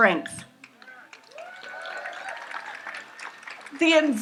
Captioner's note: audience applauds